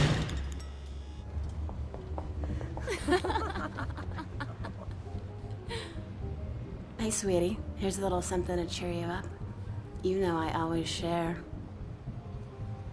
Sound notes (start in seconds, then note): 2.8 women giggling